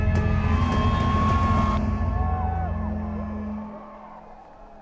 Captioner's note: cheering